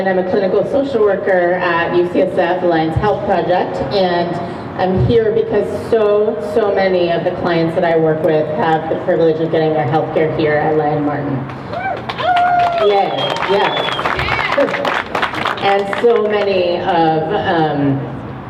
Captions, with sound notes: I'm a clinical social worker at UCSF Alliance Health Project, and I'm here because so, so many of the clients that I work with have the privilege of getting their healthcare here at Lyon-Martin. [crowd cheers] Yes! And so many of, umm